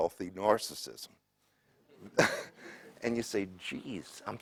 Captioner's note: laugh